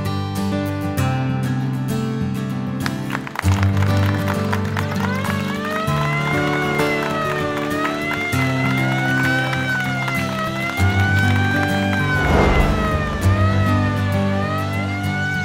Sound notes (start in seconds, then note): 2.7 applause